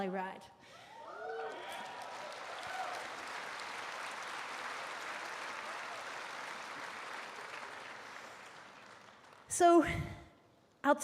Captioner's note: applause, cheers